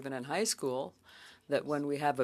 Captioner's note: speaking French